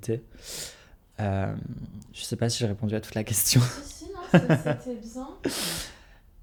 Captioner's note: laughs